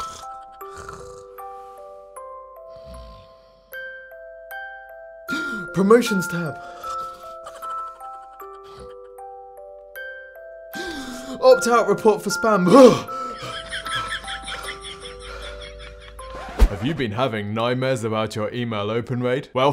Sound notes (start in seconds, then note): 0.0 snores; 3.8 bells chiming